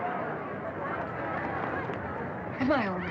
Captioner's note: people chattering indistinctly